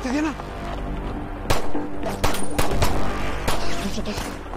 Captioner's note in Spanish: Disparos